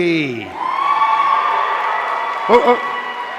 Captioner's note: audience cheering